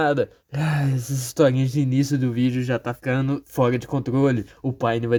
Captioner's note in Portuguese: Sigh